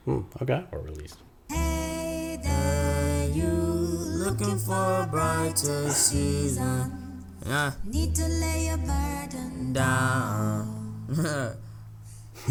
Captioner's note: haha